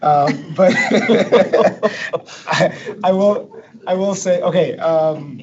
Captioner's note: laughs